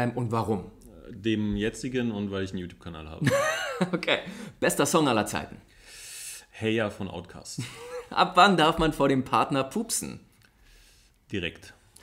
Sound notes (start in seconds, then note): 3.2 laughs